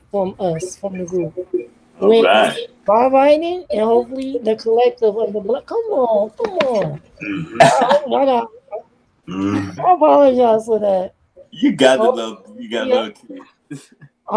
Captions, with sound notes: from us, from the group. - Not bad. - By whining and hopefully the collective of the black. Come on, come on. (chuckles) Whatever. I apologize for that. - You got the love, you got no excuse.